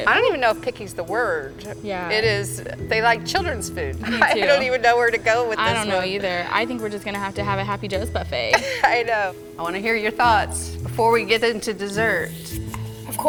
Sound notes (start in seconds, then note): 8.5 laughs